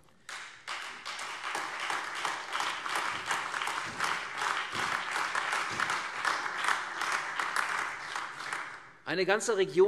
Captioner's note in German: Beifall CDU, AfD, Freie Demokraten und vereinzelt SPD